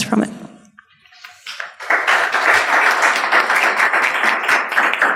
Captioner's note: applauding